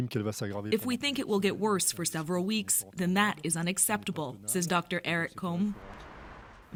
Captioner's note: speaking French